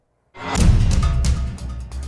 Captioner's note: metallic screeching; upbeat instrumental music; resonant thudding